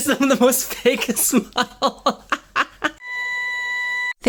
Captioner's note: hahas continue